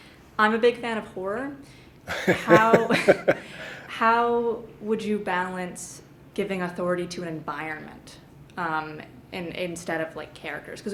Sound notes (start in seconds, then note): 2.1 laughter